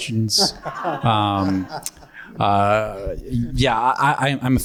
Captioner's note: panelists laugh